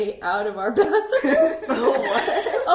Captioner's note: laughter